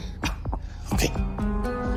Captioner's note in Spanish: Estornuda